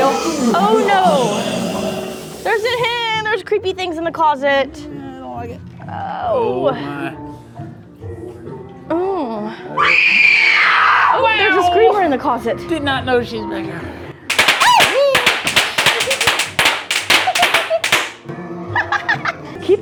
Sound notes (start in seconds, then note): 3.5 wimper; 9.7 screaming